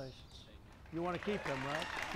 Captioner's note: applause